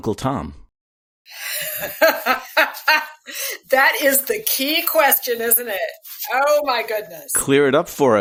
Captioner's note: laughter